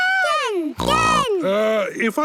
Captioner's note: snorts